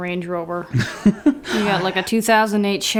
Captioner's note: chuckles